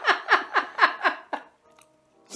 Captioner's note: laughing